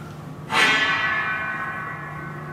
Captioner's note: metallic clattering